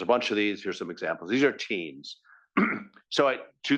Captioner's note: cough